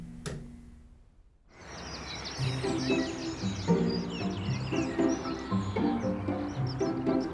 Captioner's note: birds singing; gentle upbeat music